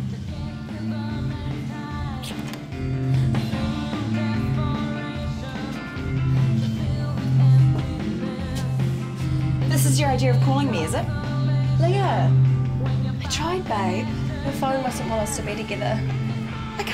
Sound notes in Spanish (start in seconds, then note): 2.3 Puerta habriendo